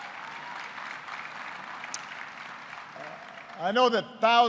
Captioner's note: applause